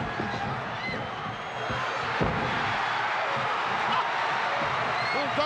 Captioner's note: audience cheering